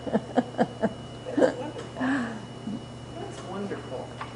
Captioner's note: laughter